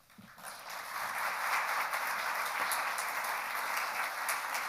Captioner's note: crowd clapping